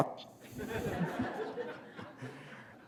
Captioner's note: laughter